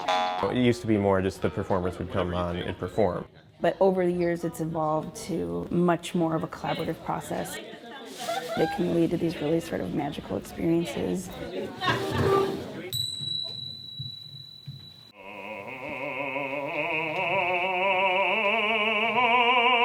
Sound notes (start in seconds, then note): 12.9 bell rings; 15.3 man singing